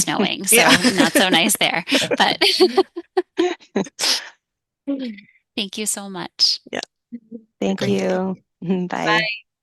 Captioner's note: laughing